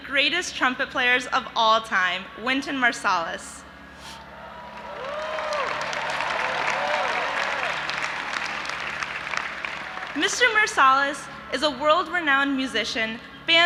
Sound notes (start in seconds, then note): 4.3 audience applauding and cheering